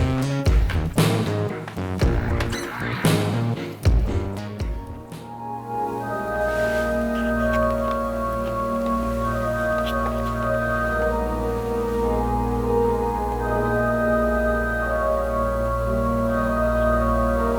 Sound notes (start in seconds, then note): 6.0 soft, spherical sounds